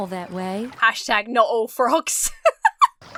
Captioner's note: laughs